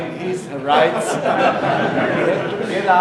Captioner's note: audience laughing